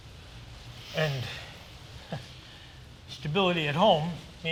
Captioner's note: laughs